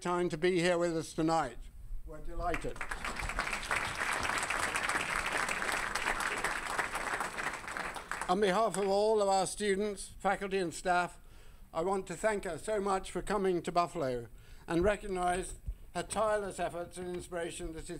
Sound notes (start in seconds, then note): 2.5 audience applauding